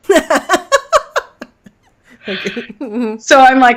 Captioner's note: laughing